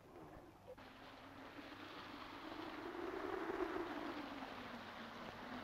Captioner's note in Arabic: هبوب الريح